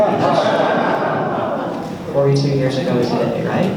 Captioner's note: laughs